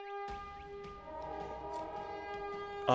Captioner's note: distant Horn Blaring